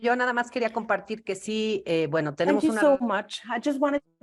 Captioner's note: speaks foreign language